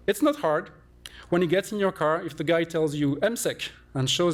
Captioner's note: non-english